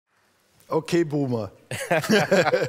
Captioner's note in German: Lachen